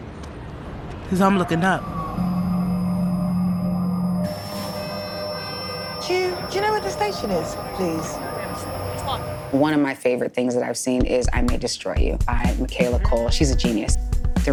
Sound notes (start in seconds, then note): 1.3 high-pitched squealing; 4.2 horns honking